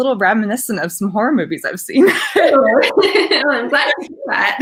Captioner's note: laughing